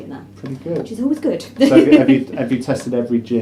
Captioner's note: laughs